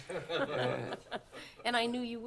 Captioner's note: laughter